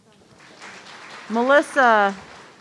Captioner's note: audience applauding